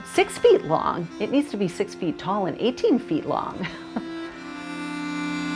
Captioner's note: chuckles; gentle music